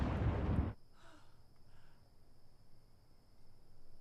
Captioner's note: sighing